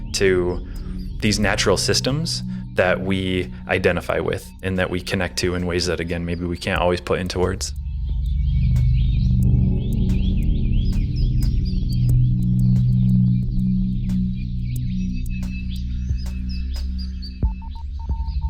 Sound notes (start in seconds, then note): 8.5 birds singing; 10.3 tranquil music